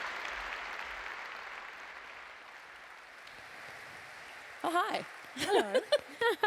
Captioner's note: laughter